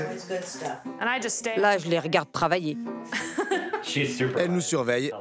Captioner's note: laughs